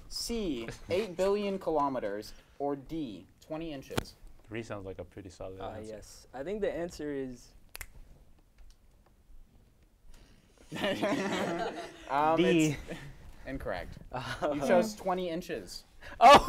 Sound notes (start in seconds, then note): 7.6 snaps; 10.7 hosts laugh